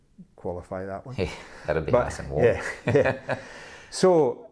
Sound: laughing

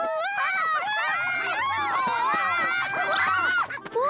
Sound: all yelling; screaming

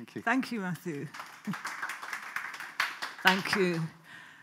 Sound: audience applauds

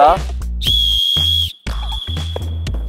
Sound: whistle blows

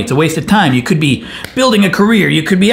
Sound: claps hands

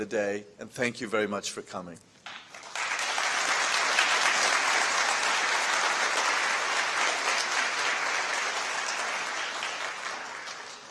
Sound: applause

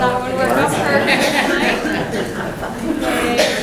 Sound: students talking

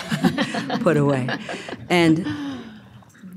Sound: laughing

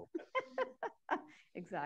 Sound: laughs

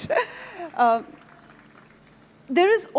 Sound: audience applauding

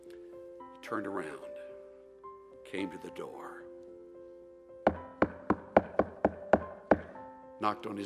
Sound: knocks on pulpit

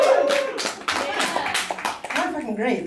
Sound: clapping

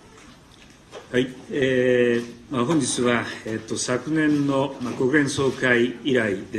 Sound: speaking in foreign language

